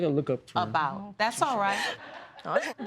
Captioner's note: audience laughing